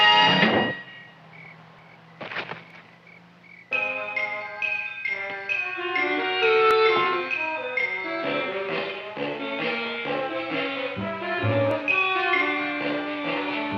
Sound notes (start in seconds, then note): 0.8 crickets chirping; 2.2 Leonora thumping; 2.2 rock thumping; 3.8 dramatic music